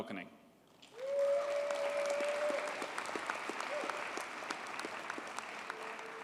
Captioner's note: audience cheers and applauds